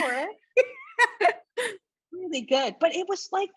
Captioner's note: laughs